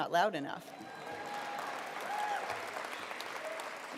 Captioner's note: applause